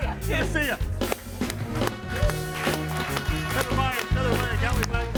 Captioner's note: upbeat music; all clapping